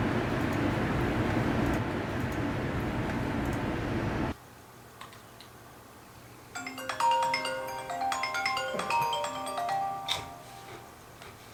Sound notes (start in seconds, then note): 6.6 phone Rings